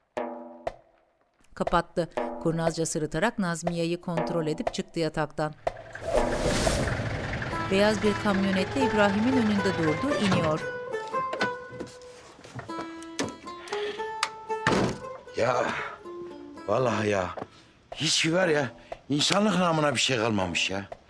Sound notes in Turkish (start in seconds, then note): 6.0 Geçiş müziği; 7.2 Araba sesi; 14.6 Kapı kapanma sesi